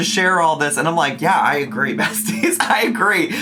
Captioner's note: laughs